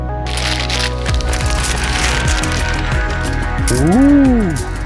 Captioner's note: paper crumpling